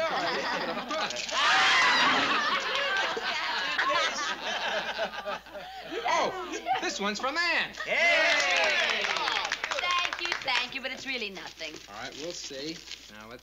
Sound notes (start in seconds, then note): 1.6 laughter; 8.0 applause